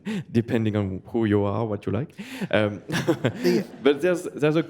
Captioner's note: chuckles